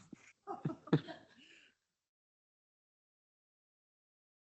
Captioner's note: participants laughing